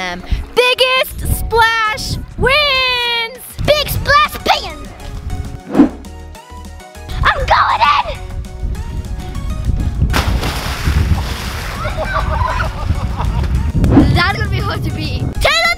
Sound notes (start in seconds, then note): 11.7 girls cheering